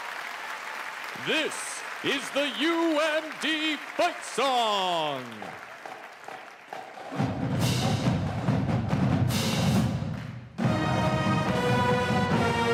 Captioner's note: applause